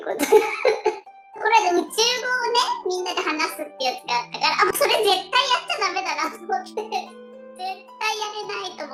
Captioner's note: laughs